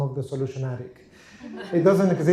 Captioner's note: laughter